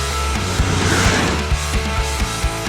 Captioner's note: motorcycle revving over music